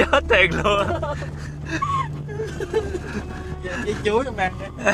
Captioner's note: laughter